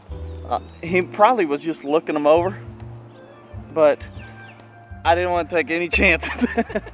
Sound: laughter

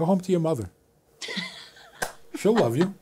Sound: laughs

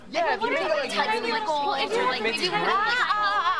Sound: clamoring

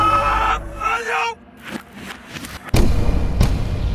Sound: backwards audio

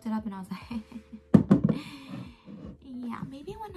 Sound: deep inhale

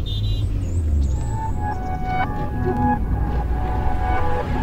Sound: car horn and street noise

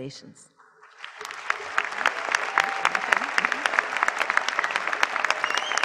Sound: applause

